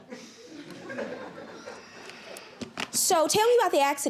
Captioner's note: audience chuckles